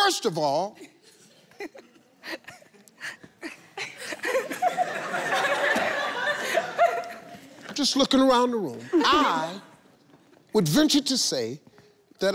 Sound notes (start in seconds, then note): 0.8 in-laws laughing; 3.5 audience laughing